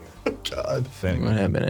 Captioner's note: laughing